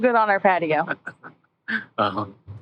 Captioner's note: laughing